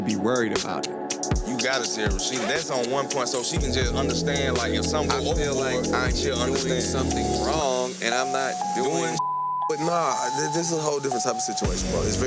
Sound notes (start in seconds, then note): 8.1 beep